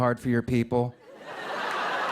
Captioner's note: laughter